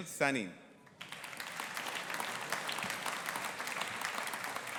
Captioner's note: audience applauding